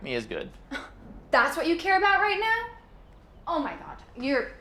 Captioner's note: scoffs